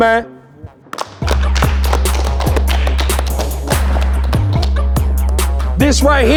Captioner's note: hip hop music; clapping